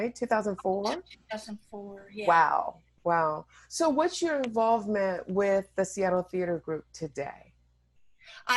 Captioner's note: none